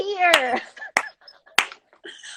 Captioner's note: clapping